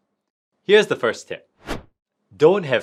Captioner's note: transition whooshing